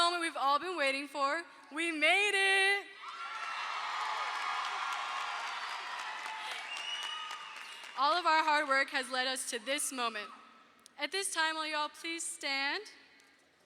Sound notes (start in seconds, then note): 3.0 audience cheers; 3.1 audience applauds